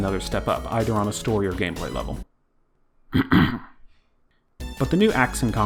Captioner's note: clear throat